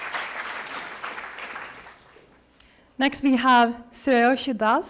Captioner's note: applause